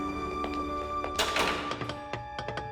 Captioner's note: door opens